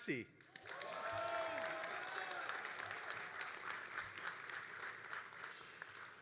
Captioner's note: all applauding and cheering